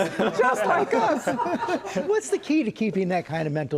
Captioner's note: laughter